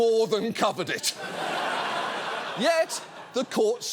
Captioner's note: studio audience laughing